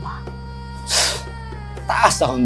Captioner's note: Apo scoffs